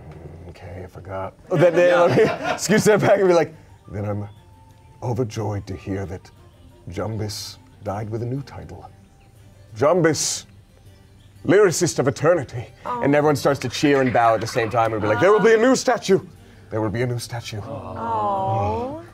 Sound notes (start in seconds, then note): 1.5 everyone laughs